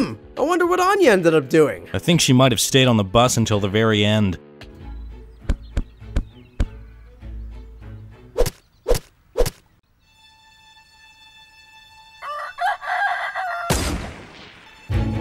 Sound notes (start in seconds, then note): 5.4 feet thudding; 8.4 pickax thudding; 9.9 upbeat calm music continues; 12.1 rooster crowing; 13.7 gun fires